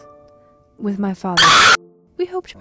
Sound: screech

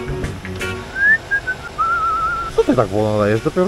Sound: beautiful whistling

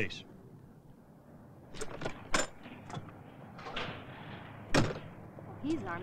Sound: door clattering

